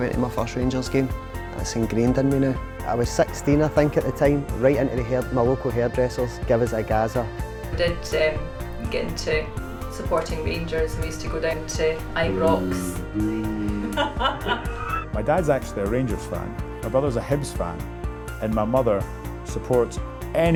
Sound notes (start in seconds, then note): 13.7 woman laughs; 14.1 man groaning